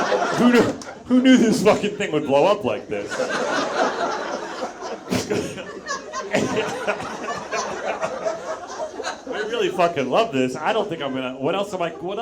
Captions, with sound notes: Who knew this fucking thing would blow up like this? (audience laughs) (Zach laughs) I really fucking love this, I don't think I'm gonna.